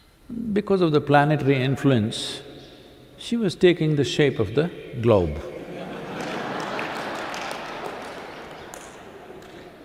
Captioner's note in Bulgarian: смях